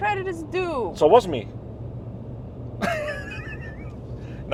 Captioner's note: laughs